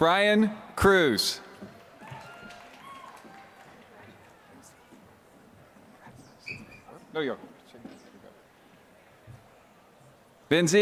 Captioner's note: applause